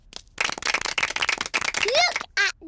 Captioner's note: applause